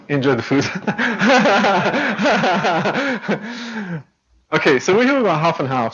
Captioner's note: laughs